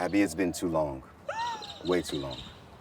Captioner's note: friend gasps